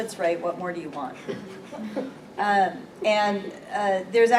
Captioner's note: chuckling